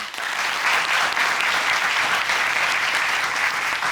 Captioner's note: applause